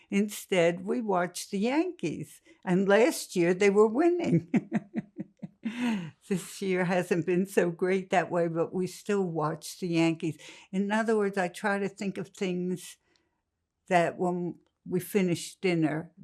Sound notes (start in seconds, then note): 4.3 laughing